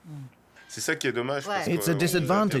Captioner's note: speaking French